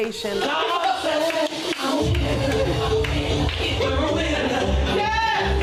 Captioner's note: people chattering